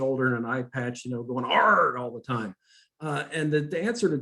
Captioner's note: growls